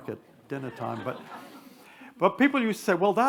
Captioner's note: attendees laugh